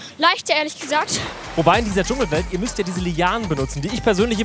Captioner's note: Plätschern